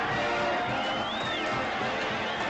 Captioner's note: crowd cheering